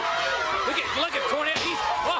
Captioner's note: crowd cheering